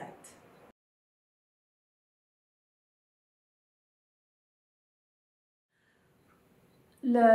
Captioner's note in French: silence